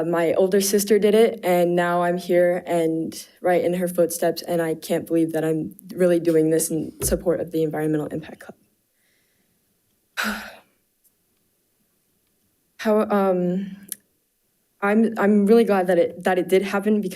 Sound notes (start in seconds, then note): 10.3 sighing